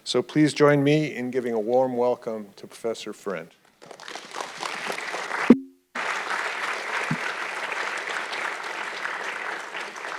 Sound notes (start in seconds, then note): 4.2 audience clapping